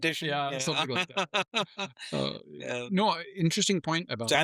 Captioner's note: laughing